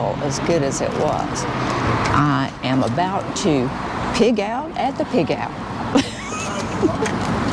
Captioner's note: laughs